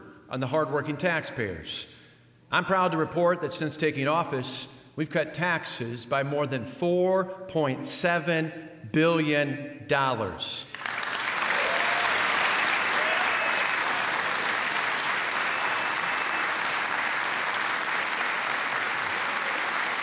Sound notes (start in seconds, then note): 10.5 applause